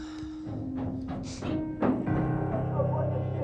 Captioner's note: footsteps thudding; pensive music